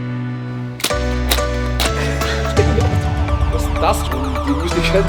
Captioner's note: upbeat music; foot stomps; men chatting